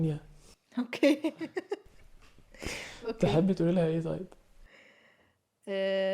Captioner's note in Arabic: ضحك